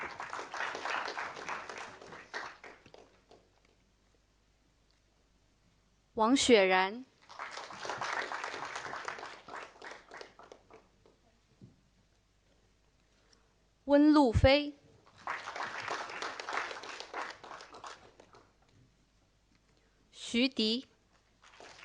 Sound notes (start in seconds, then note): 0.0 audience applauding; 7.2 audience applauding; 15.1 audience applauding; 21.4 audience applauding